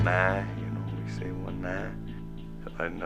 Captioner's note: speaks Menominee